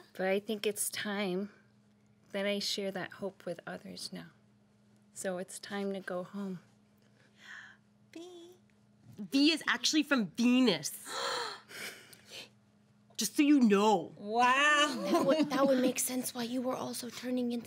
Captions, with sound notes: For I think it's time that I share that hope with others now. So, it's time to go home. - V - V is actually from Venus. (girls gasp) - Just so you know. - That would make sense why you were also turning